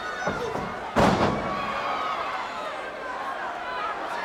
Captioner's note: body thuds